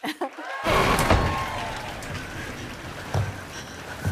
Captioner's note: thunder crashes, rain falling